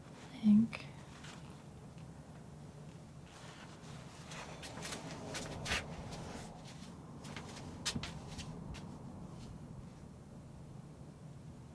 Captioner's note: scratching